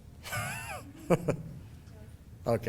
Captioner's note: laughing